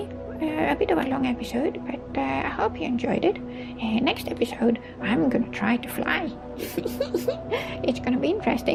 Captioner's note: chuckles